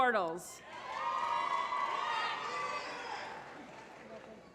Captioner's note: applause